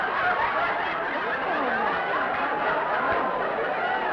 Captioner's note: laughter